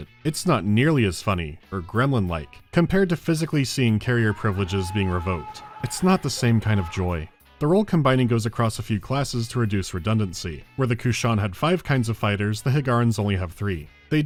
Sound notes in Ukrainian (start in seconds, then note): 4.4 болісний зойк людини, в якої фізично забирають корабленосні привілеї